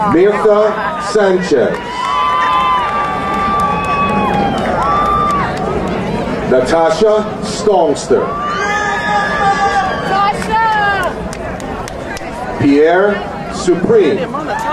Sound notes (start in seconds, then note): 2.0 crowd cheering; 7.8 crowd cheering